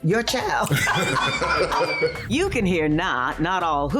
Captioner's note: laughter